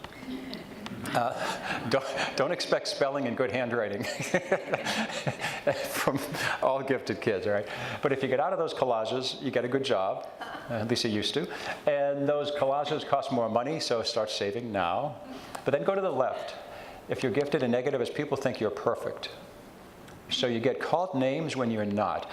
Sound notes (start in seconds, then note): 0.2 audience chuckles; 4.0 laughs